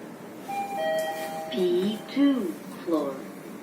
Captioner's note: chime